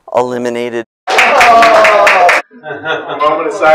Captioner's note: audience groans